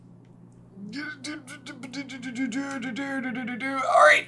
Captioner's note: stressed